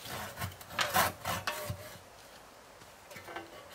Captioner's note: hand sawing